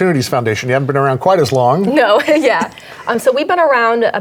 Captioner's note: laughs